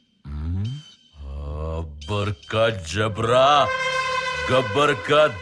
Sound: gibberish chanting

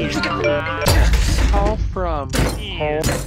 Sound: crashing

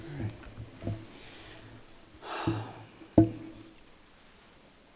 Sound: sighs

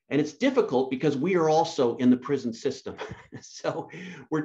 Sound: laughs

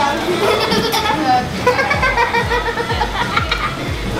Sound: laughing

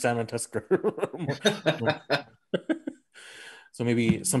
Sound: Stanley laughing; laughing

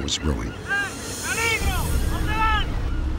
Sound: shouting in spanish

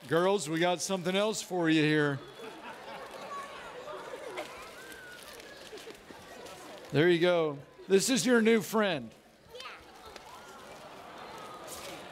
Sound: audience laughing

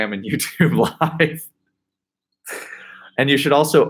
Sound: laughing

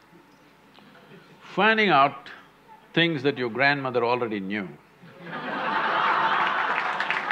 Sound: laughter/Applause

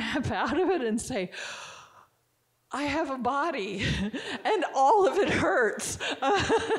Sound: chuckling

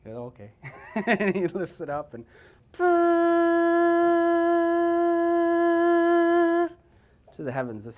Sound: makes Shofar horn sound

